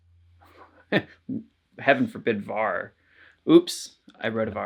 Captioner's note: laughs